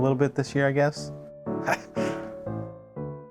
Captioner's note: laughs